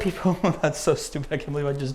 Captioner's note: laughing